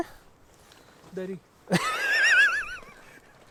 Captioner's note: laughs